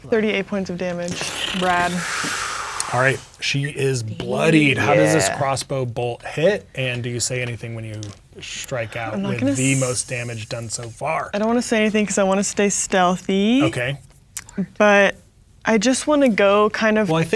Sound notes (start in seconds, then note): 1.1 sputtering